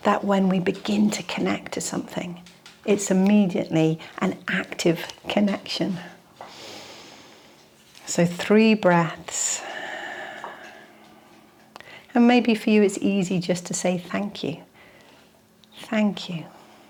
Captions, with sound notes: that when we begin to connect to something, it's immediately an active connection. (inhales) So three breaths. (exhales) And maybe for you, it's easy just to say thank you. Thank you.